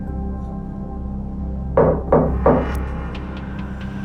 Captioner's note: knocking